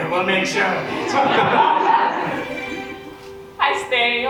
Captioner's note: audience laughs